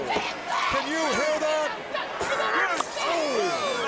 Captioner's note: crowd cheering